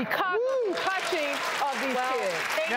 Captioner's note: audience applause